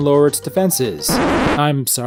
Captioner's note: record scratch